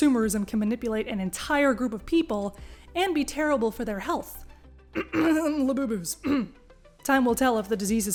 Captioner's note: cough, cough